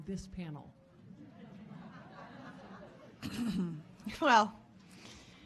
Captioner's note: audience laughing